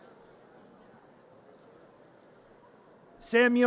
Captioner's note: audience cheers